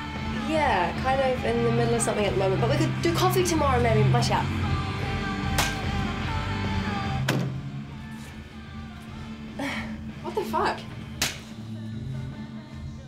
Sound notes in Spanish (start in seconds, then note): 5.5 Palmada; 7.2 Puertas cierran; 11.1 Palmada